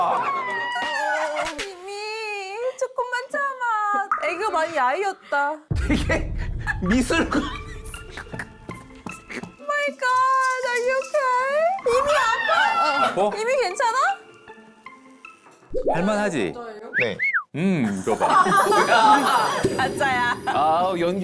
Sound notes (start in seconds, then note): 5.7 serious sound effect; 12.0 screaming sound effect